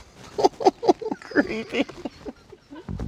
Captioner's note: laughing